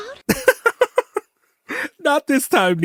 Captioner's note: laughter